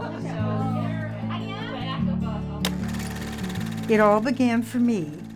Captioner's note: women chatting